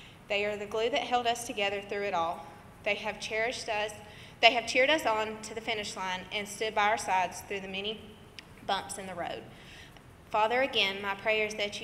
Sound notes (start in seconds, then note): none